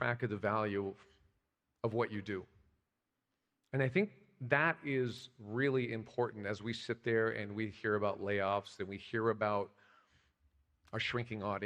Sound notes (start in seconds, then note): none